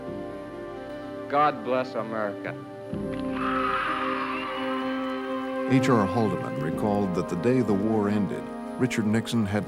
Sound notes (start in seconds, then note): 3.3 cheers and applause